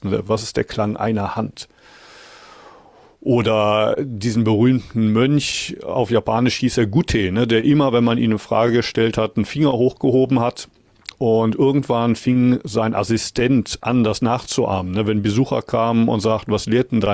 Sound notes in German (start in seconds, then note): none